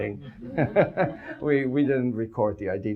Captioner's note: audience laughs